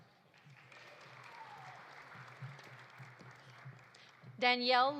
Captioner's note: audience applauding